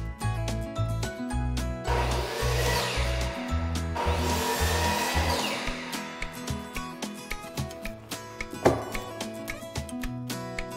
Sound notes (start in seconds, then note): 2.0 saw whirs; 6.5 guitar and keys music continues